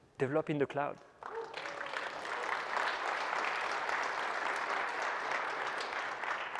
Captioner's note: applause